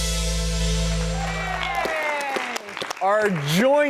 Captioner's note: applause